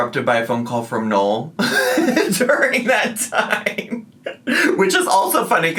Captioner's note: laughs